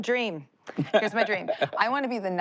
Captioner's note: laughs